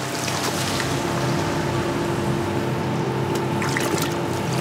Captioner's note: engine whirring